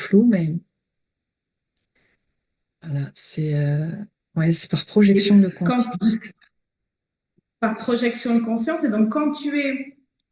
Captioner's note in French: rires